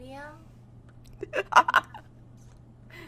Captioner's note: laughs